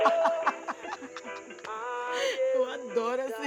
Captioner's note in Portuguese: gargalhadas